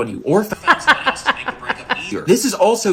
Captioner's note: laughs